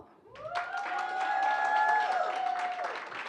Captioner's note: applause